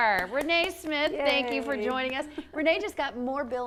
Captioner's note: applauding